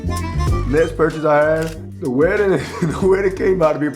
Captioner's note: upbeat music; laughs